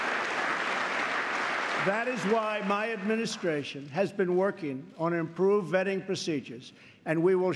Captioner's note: applause